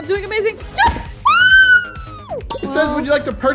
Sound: screaming

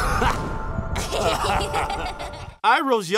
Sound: laughing

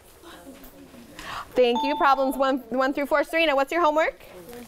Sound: ding

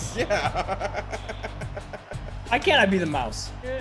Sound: laugh

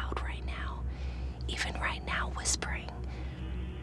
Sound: whispering

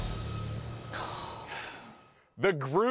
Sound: sighing

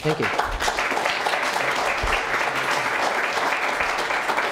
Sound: applause

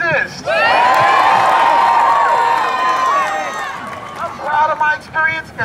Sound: cheers and applause

